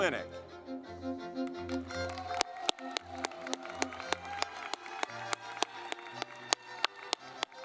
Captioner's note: lively music; audience clapping